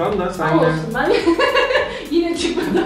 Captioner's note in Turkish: gülüş